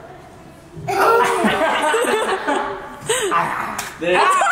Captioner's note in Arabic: الكل يضحك